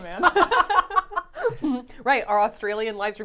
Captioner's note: all laughing